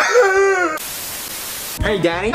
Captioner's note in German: statisch